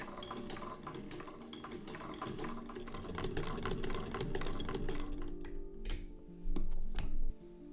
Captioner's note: soft clickety-clack of sewing machine ASMR